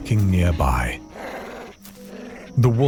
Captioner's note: wolf growling; chicken clucking